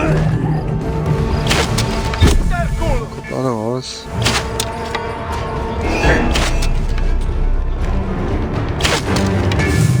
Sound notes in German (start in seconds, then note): 2.6 stöhnen